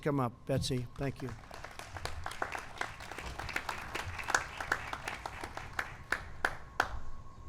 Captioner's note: applause